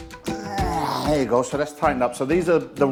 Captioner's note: groans